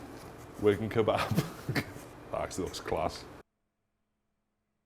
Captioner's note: laughing